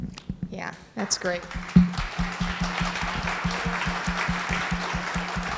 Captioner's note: audience applauding